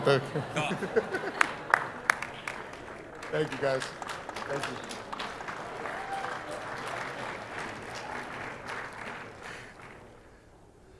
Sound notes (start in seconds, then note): 0.0 audience laughing; 5.6 audience applauding